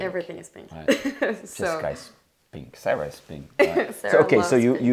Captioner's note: laughing